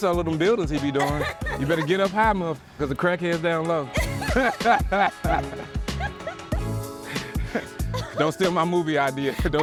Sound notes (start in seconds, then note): 3.9 laughs